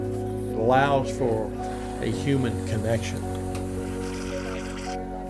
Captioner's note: sound of whipped cream coming out